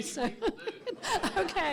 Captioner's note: audiences laughing